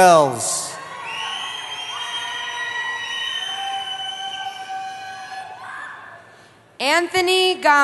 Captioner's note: cheering